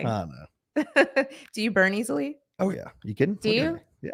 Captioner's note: laughing